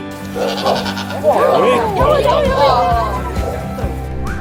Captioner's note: cry of a sheep